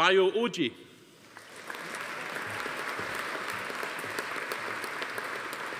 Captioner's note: audience applauding